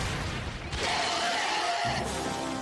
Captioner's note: screams